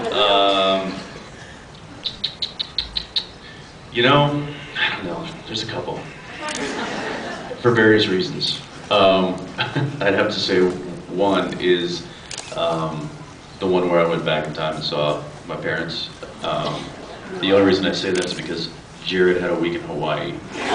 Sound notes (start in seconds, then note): 1.9 makes clicking noise with mouth; 9.6 laughs